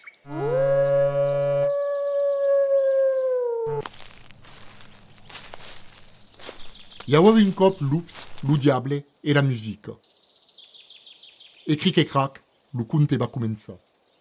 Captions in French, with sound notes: [Vibreur du smartphone et hurlement d’un loup comme sonnerie] [Bruits de pas dans des feuilles et chants d'oiseaux] I avèva un còp lops, lo Diable e la musica. E cric e crac, lo conte va començar.